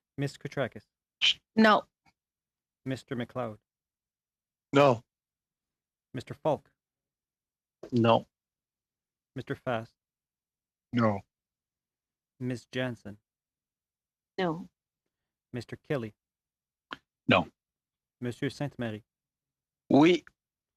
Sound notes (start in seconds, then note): 3.4 speaking French